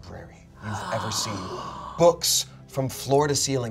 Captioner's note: gasps